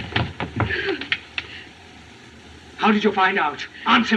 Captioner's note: gasps